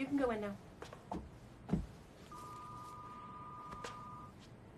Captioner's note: phone ringing